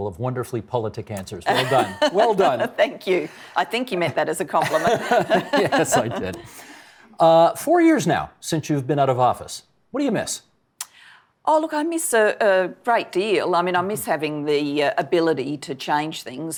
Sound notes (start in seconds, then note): 4.6 laughing